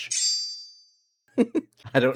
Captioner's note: laughs